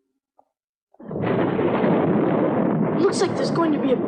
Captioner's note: thunder